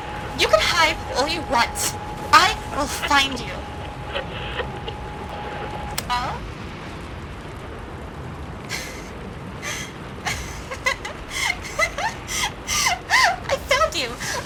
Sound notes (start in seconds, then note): 7.1 low laughter, becoming higher; 9.2 scanning Stops, Static softens, voice still in low quality